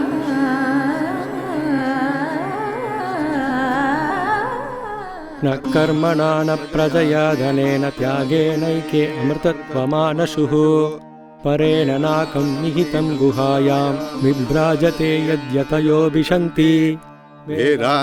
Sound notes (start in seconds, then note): 5.3 Chants Sanskrit Poorna Kumbha mantras